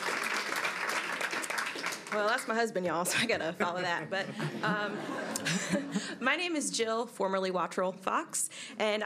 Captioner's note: applause